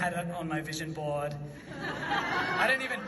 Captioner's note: audience laughs